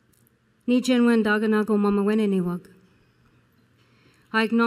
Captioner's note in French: Parlant Anishinaabe